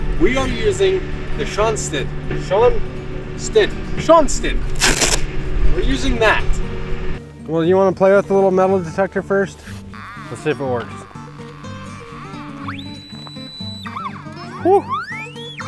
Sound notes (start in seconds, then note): 4.7 bag flap rips open; 12.6 machine squeals